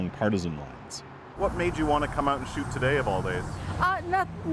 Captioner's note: none